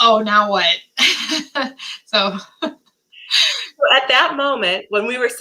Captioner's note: laughter